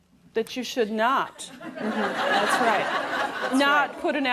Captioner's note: laughter